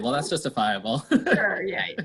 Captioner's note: laughs